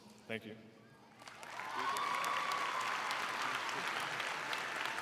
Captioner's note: crowd cheering